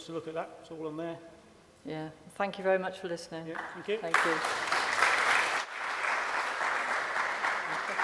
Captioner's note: applause